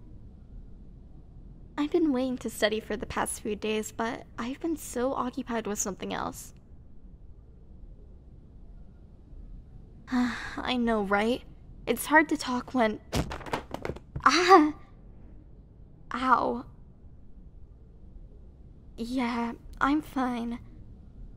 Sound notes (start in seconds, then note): 10.1 sigh; 13.1 sound: falling books and paper; 13.1 sound: bump